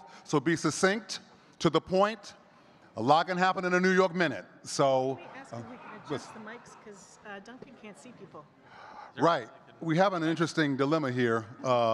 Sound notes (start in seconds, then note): 9.4 faintly speaking